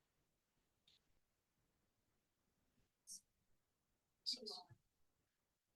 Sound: silence

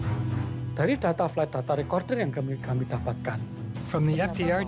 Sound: speaking indonesian

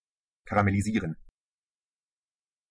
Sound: fast Pronunciation

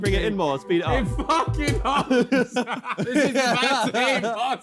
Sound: laughing

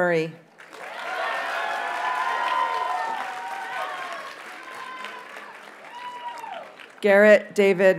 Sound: audience cheers and applauds

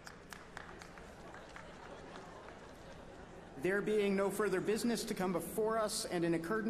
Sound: applause

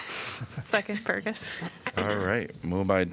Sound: laughter

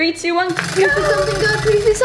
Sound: wheel clicking

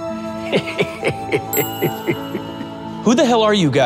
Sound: repairman chuckling

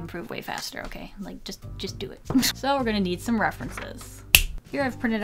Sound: snap

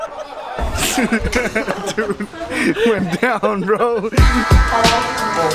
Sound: laughing

